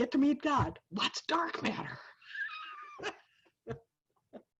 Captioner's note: laughs